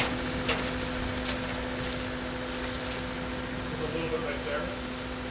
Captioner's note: shovel scraping